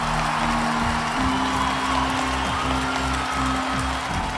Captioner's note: crowd cheering; crowd continues to cheer